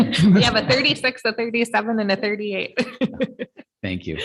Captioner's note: laughs